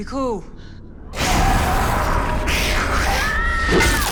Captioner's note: growling; screams